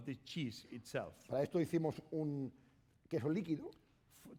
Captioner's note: speaking spanish